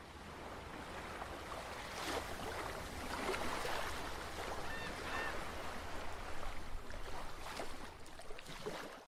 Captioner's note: ocean Sounds